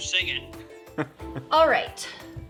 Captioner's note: laughs